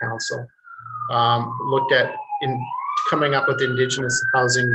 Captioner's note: siren wailing